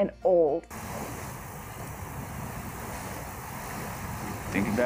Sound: water gushing

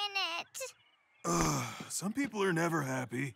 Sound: groaning

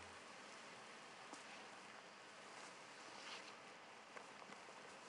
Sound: body scraping

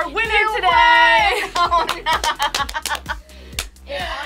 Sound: laughs

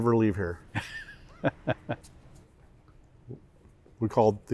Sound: laughs

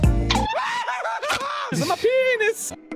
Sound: troll screams

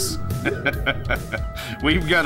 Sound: laughs

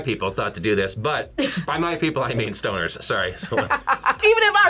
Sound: laughs

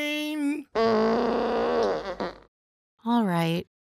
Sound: farting

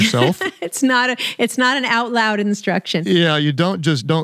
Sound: laughs

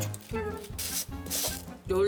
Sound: grinding

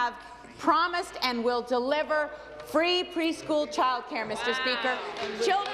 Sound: applause

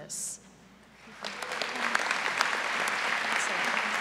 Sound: applause

